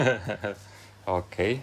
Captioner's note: laughs